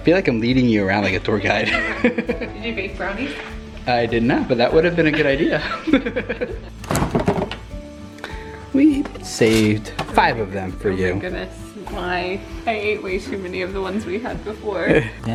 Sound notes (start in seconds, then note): 5.0 laughter